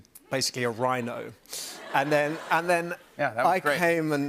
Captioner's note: laughter